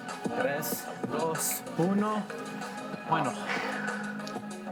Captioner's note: in foreign language